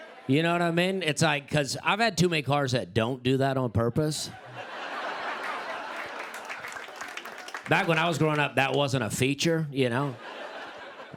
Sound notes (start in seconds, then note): 4.2 laughter